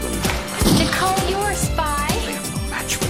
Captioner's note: gunshot